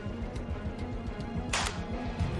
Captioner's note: phone slams closed